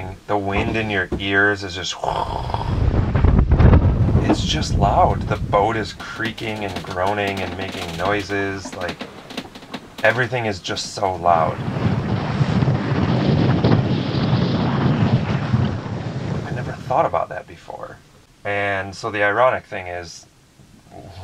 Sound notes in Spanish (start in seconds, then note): 1.9 gruñidos; 12.1 sopla fuerte viento